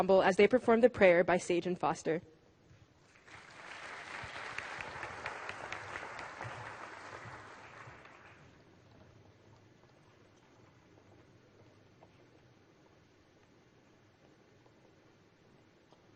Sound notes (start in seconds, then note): 3.0 applause